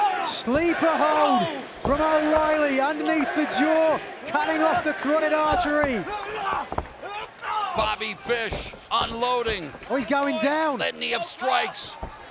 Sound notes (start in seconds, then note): 0.0 fans chanting; 6.8 wrestler grunts